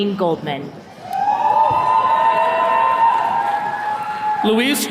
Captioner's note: attendees cheering